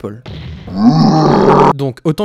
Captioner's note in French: cri de troll